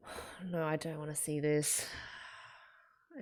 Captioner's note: breathes out